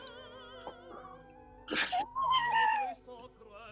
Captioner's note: sniggering